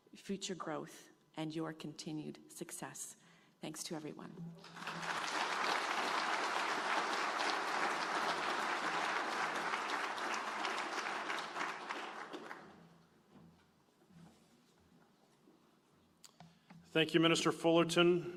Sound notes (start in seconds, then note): 4.6 applause